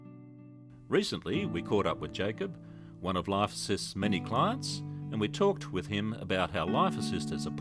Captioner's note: voiceover